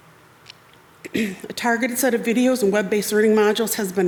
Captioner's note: clears throat